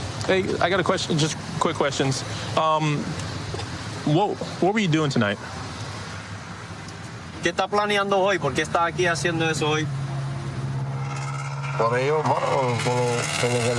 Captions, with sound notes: Hey, I got a question. Just quick questions. What-- what were you doing tonight? [speaking spanish]